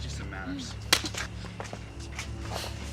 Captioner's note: slap